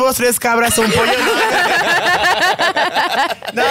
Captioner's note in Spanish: Risas